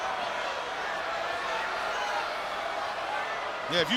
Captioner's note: crowd cheers